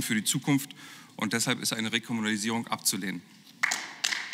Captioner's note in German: Beifall